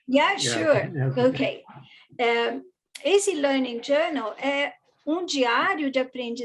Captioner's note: non-english